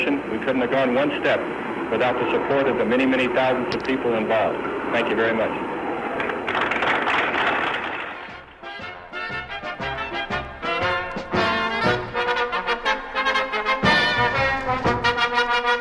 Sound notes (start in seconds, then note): 6.2 applause; 7.9 marching band music